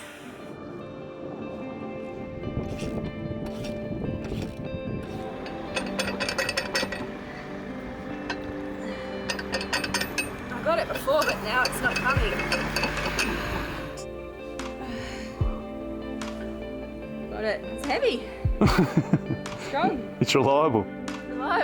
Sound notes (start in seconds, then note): 0.2 gentle music; 2.8 tool ratcheting; 6.0 metal clanking; 18.6 laughing